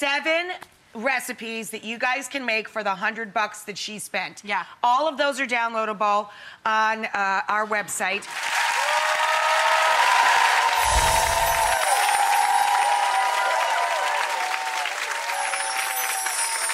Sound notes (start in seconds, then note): 8.2 audience applauds